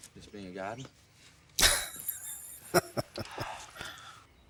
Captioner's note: laughing